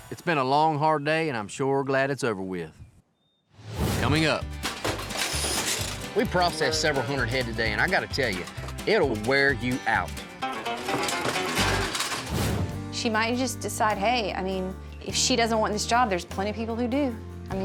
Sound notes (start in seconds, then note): 4.5 gate clangs